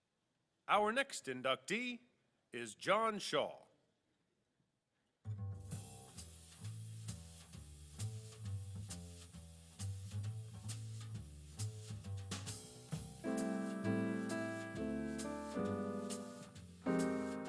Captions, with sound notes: - [Voiceover] Our next inductee is John Shaw. (Jazz music)